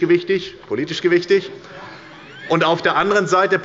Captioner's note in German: Heiterkeit bei der SPD